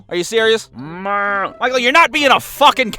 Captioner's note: mooing